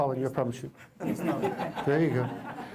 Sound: laugther

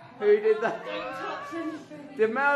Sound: laughs

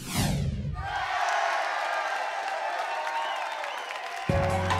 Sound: crowd cheering

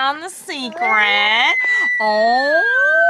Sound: screaming joyfully

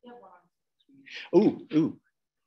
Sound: woman speaking away from the mic

